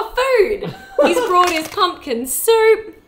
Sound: laughs

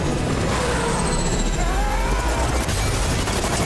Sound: groaning

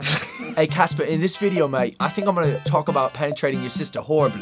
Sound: british Accent

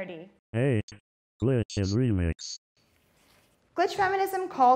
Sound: robot Voice

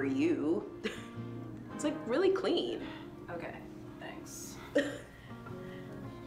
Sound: laughs

